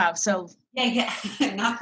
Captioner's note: laughs